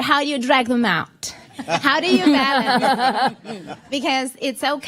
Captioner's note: laughter